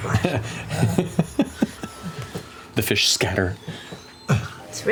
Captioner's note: laughs